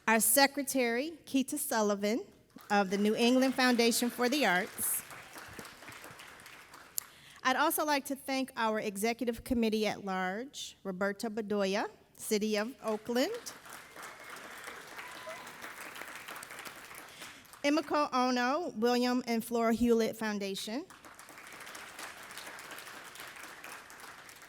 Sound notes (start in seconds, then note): 5.1 audience applauding; 12.8 everybody applauding; 20.9 audience applauding